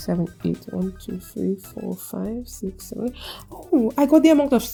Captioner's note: gasp